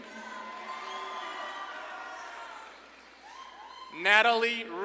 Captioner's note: audience claps and cheers